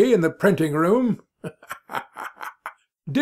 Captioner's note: bursts out laughing